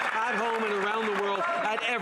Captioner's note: some Applause